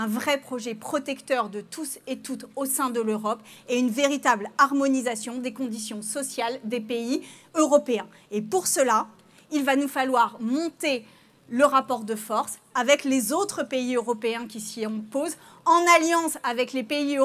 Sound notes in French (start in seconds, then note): none